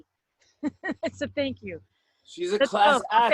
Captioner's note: laughter